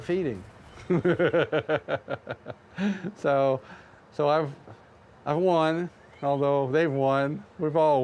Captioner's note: laughter